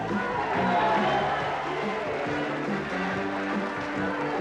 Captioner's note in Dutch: publiek applaudisseert